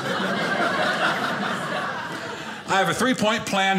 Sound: audience laughing

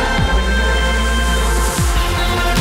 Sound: car engine

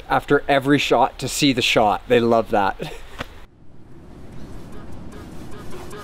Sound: chuckles

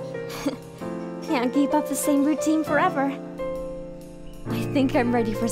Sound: Jess giggles

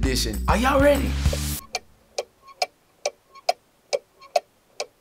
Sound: ticking sound

